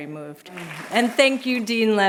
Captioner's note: applause